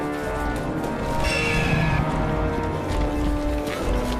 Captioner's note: roaring